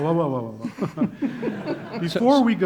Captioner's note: laughing